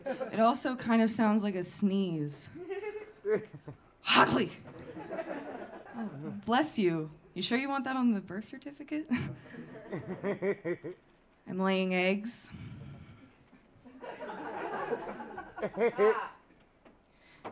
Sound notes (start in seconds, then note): 4.0 sneezing; 9.2 audience laughing; 13.9 audience laughing